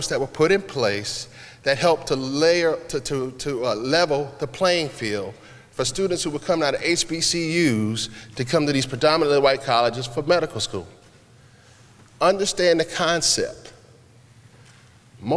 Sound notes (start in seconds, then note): none